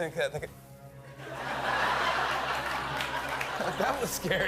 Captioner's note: laughter